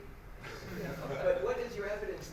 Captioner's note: laughter